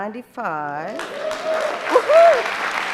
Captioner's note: audience applauding